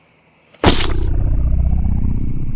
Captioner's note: bird poop splattering; air quavering